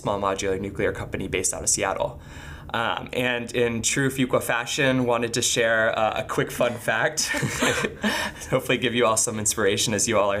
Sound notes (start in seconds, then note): 7.2 laughing